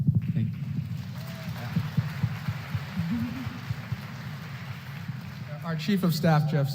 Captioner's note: applause